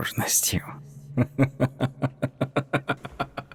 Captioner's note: chuckles